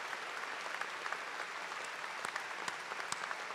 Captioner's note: applause